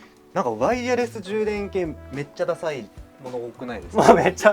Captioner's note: laughs